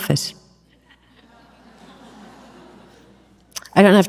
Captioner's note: audience laughs